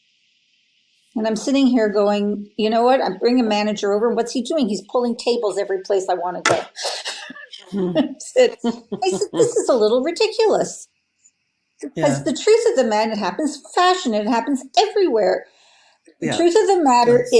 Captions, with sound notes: and I'm sitting here going, you know what? I bring a manager over. What's he doing? He's pulling tables every place I wanna go. (laughs) I said, "This is a little ridiculous," 'cause the truth of the... It happens fashion. I happens everywhere. The truth of the matter